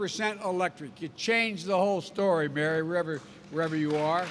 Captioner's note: applause